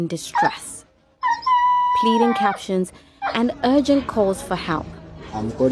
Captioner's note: dog barking